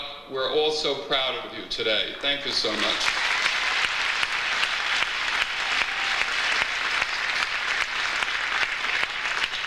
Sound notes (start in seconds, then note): 2.2 audience applauds